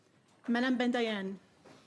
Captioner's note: speaking French